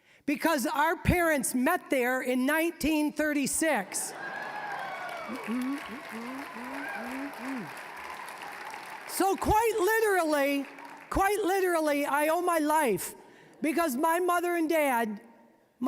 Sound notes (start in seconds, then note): 4.1 applause, cheering; 5.3 humming